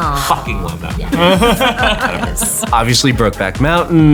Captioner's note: cast laughs